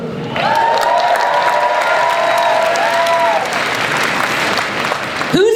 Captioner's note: audience cheers